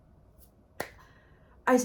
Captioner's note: clap